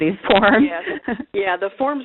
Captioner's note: laughter